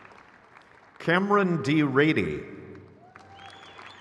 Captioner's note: crowd cheers